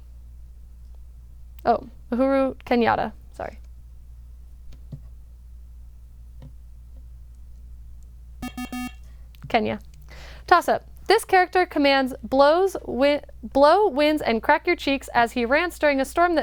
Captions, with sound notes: Uhuru Kenyatta, sorry. [Bell] Kenya. Toss up, this character commands "blow, winds and crack your cheeks" as he rants during a storm